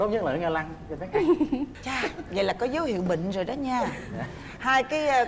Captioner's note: the wife laughing